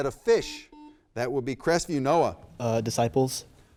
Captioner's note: buzzer beeps